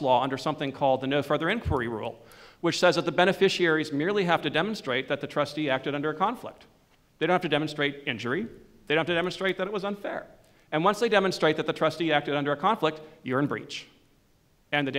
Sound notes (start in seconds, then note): none